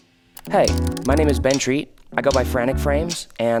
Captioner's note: computer keys clicking